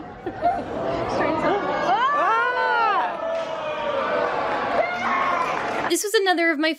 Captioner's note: crowd booing